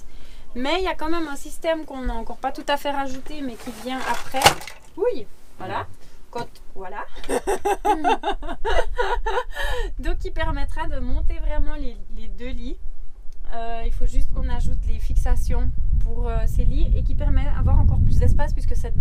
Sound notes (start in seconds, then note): 7.1 laughs